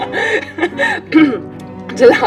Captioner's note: laughs; clears throaght